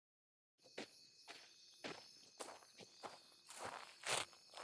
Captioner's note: footsteps scuffling, crunching on a gravel path